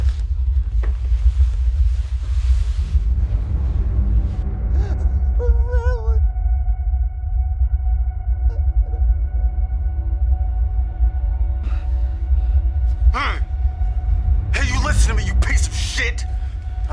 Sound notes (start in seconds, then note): 0.2 suspenseful music continues; 4.7 sobbing; 11.6 Joe breathes heavily